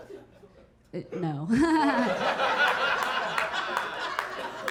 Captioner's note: audience laughing